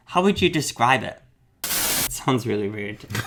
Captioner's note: static